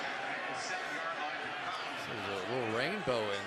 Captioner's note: pa announcement